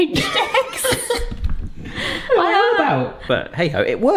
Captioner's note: both laughing